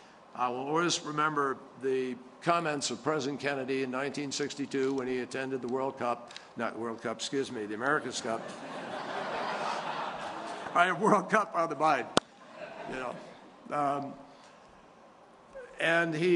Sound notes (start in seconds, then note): 8.2 laughter